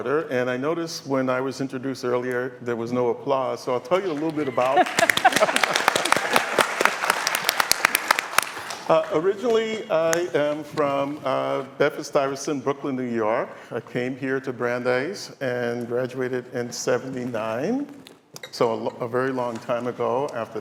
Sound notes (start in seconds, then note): 9.1 applause; 9.7 laughter